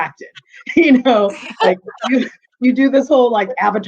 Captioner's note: chuckling